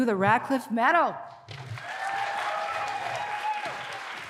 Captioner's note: applause